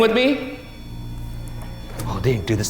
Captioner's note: REM-POD continues to beep